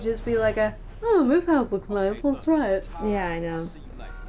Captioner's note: funny voice